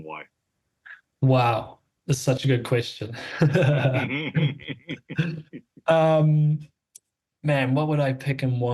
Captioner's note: laugh